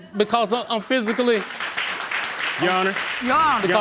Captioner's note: audience laughing and applauding